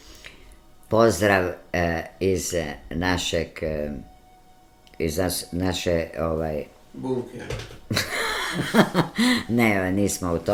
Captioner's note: laughter